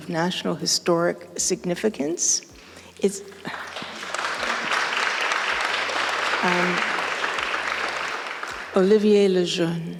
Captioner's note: applause